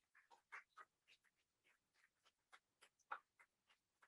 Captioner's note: audience claps